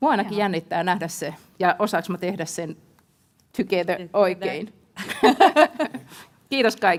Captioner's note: laughter